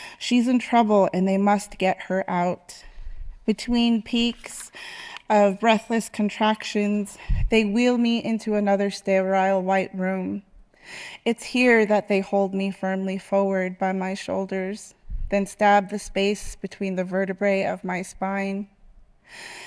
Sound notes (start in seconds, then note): none